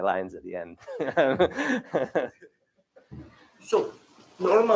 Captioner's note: laughter